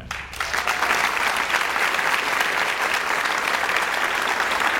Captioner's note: audience applauds